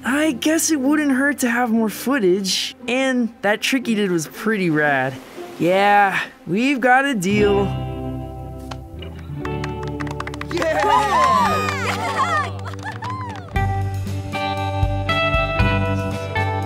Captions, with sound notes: - I guess it wouldn't hurt to have more footage, and that trick you did was pretty rad... Yeah, we've got a deal. (all cheer) (gentle music)